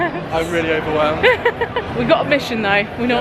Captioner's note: laughing